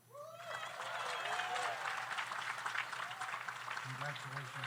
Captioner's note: audience cheers; audience applauds